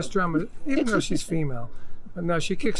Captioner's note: laughs